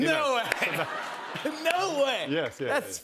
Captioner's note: laughter